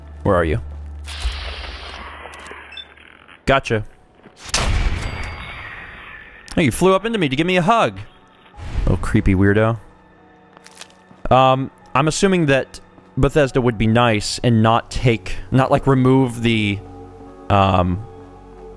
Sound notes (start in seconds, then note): 4.5 blam!